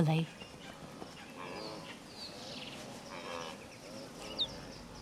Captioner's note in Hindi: चहचहाहट